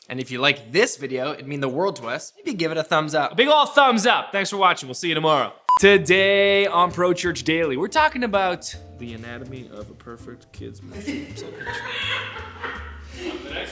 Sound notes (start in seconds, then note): 5.7 beeping; 10.9 laughing